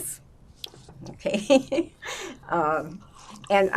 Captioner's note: laughing; drinking